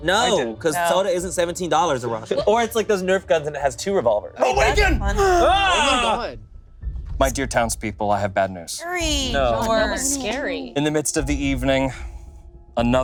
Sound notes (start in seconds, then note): 4.9 group gasping